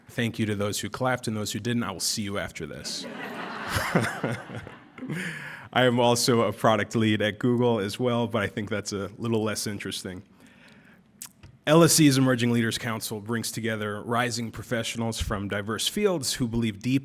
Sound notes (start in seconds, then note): 4.7 laughter